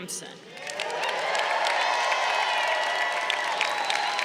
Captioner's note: crowd cheering